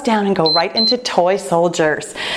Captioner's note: timer beeping